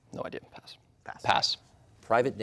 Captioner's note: whispers